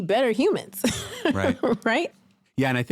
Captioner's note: chuckles